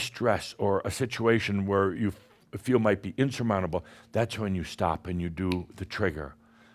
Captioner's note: snap!